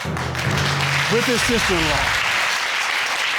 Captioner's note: audience applauding